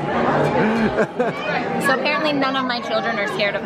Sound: laughing

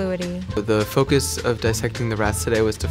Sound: voiceover

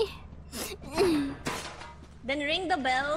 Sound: sniffle

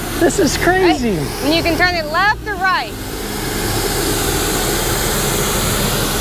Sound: hose gushing water

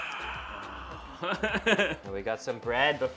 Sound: laughs

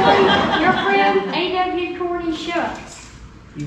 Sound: laughing

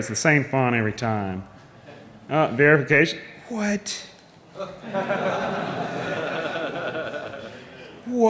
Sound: laughing

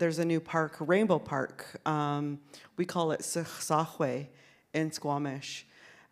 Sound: speaks in Sk1wx1wu7mesh

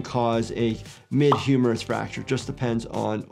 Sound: graphic pops

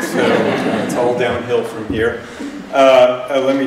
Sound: laughter

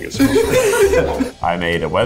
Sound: laughing

